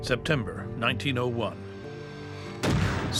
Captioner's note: gunshot